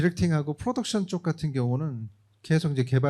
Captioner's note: speaking korean